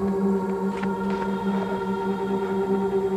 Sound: heavy footsteps

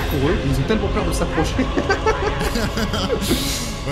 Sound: laughs

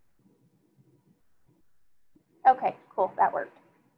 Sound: none

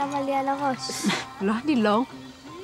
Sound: chuckles

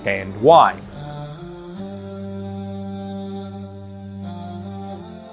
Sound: man humming solemnly

